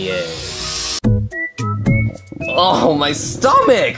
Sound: playful music; stomach growling

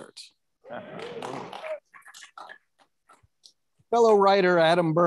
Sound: audience applauding

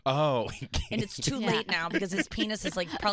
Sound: laughing

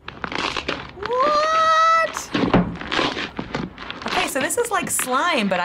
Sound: video crunches loudly

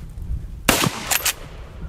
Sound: gun fires

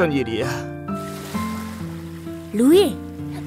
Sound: waves lapping

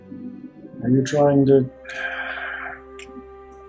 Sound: sighs

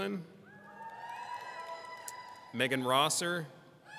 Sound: people cheering

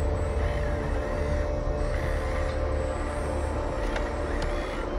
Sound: robotic sounds

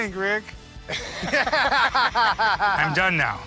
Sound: laughs

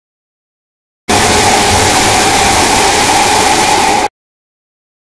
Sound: sound of distorted screech

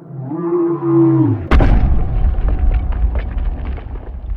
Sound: Roaring Gargolem; heavy Stomping

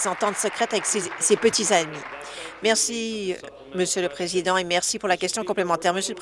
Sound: applause

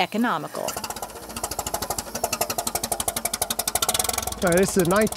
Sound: tractor engine noise

